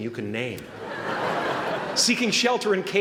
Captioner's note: laughter